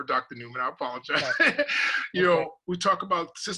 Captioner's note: laugh